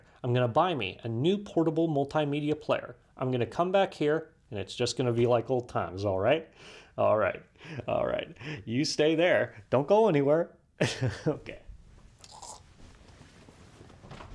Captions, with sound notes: I'm going to buy me a new portable multi-media player, I'm gonna come back here, and it's just gonna be like old times, alright? Alright. Alright. You stay there. Don't go anywhere! [chuckles] Okay.